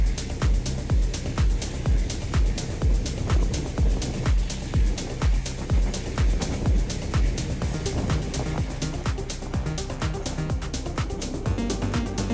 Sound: wind blowing

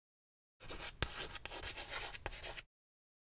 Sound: scratching on chalkboard

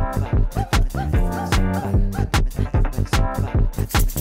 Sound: woo woo

